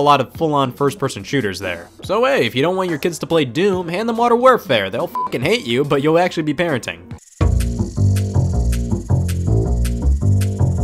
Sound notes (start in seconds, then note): 5.1 beep; 7.4 upbeat music